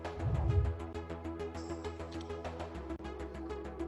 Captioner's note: air whooshes